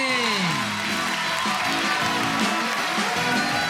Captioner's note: shouting and applause